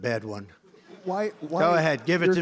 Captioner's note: laughter